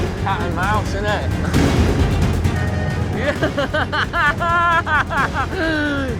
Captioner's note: laughs